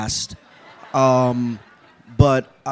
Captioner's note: laughter